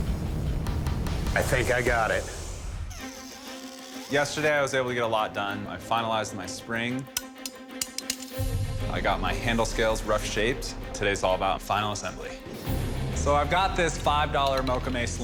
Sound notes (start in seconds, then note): 7.8 ratchet clicking